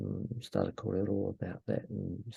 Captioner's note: speaking in foreign language